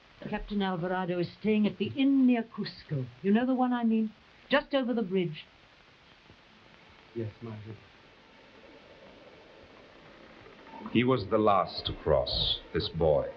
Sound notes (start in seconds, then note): 8.6 soft forlorn music; 9.2 breeze rustling; 9.9 bridge creaking